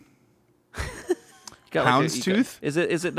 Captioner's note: laughs